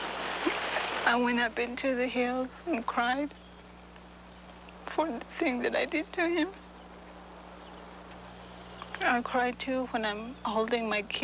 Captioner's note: voice shaking